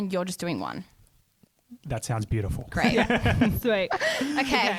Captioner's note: laughs